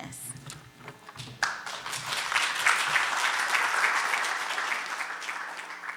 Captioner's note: audience applauding